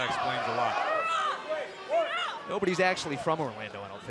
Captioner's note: crowd cheering